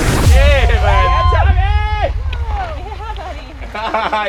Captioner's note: cheering